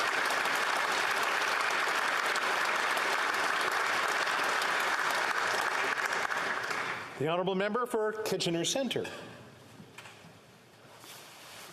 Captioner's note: applause